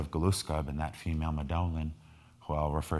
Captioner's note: speaking in foreign language